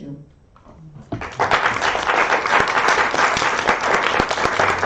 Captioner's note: applause